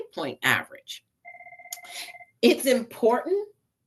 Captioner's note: phone ringing